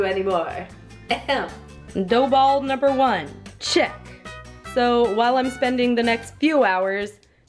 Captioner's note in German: hust